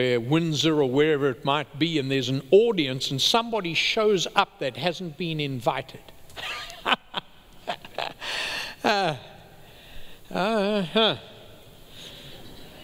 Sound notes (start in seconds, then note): 7.6 laughing